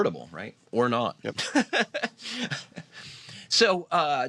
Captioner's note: laughs